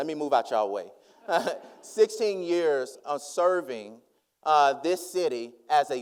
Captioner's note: laughs